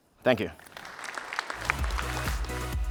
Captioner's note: applause